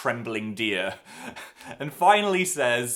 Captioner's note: laughs